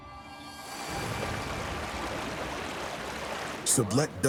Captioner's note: water flowing